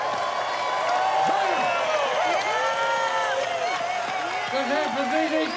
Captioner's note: applause